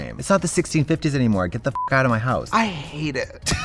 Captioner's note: beep